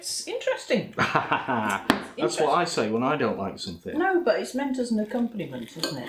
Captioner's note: laughs